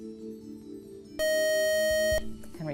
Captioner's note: beep